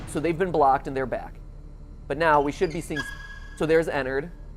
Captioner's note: squeaking